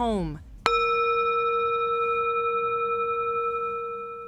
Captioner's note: bowl bangs